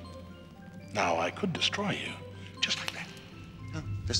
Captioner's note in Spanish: dedos chasqueando; chasquear los dedos